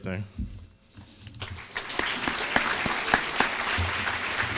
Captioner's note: applause